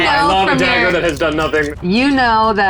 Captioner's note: dice rattling